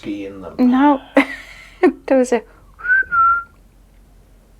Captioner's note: whistle